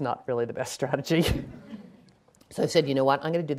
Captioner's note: laughing